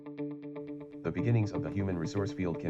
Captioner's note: text-to-speech technology reading from computer screen